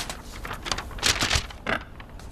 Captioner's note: paper rustling